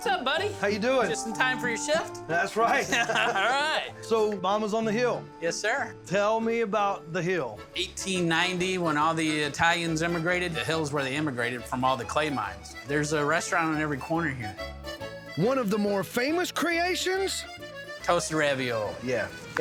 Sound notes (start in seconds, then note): 2.7 laughing